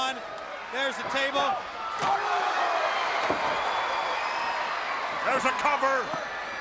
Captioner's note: crowd cheering